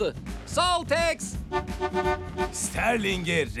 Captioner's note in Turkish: korna sesleri